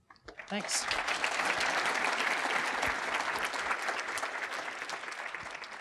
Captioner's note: applause